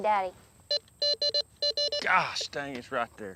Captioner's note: beeps